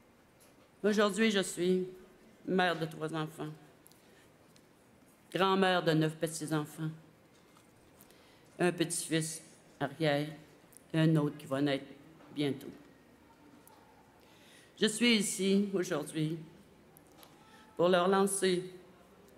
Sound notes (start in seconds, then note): 7.3 speaking French